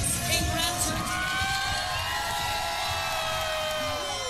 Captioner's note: passengers cheering